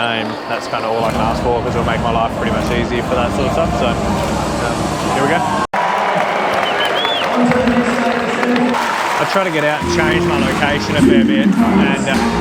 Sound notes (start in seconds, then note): 5.7 crowd cheering